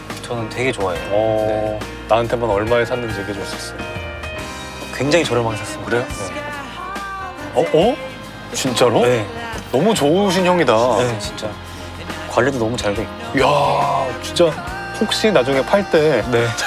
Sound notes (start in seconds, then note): 6.8 whispering